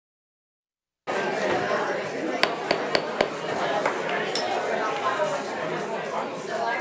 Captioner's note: people chattering; gavel banging